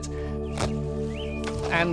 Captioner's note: thwack